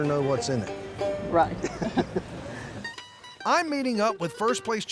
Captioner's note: both laugh